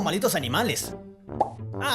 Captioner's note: pop!